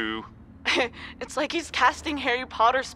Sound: chuckles

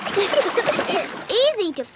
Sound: giggling

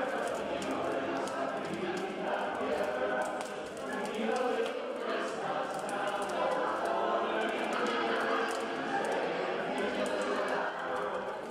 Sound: fire crackling

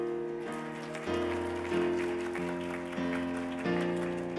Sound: cheers and applause

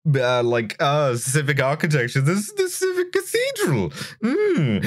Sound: fancy Victorian voice

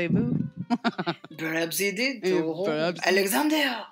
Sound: giggles

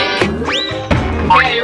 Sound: descending whistle

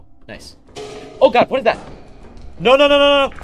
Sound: clang

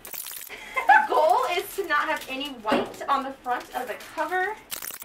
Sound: laughter

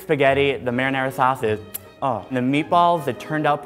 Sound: kisses

